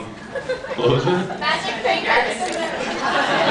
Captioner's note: laughs